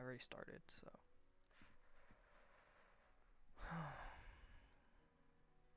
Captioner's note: sigh